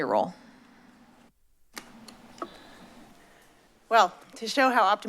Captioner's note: silence